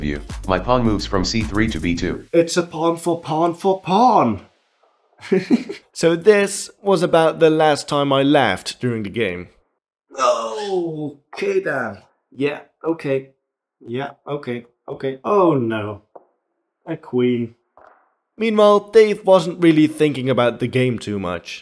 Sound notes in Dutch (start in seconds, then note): 5.2 lacht